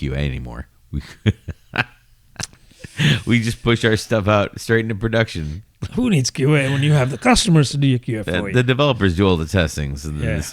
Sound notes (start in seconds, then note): 8.1 uh